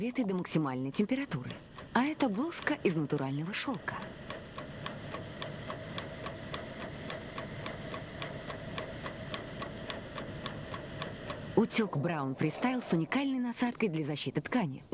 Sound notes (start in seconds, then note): 3.9 clock ticking